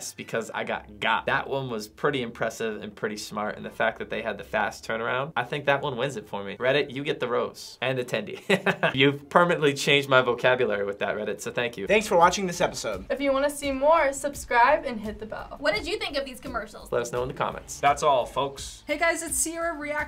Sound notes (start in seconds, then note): 8.4 laughs